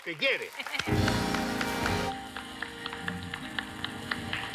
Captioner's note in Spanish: Aplausos